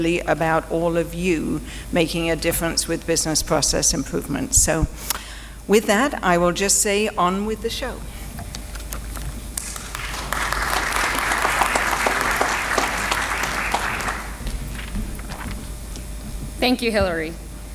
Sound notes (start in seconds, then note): 9.6 applause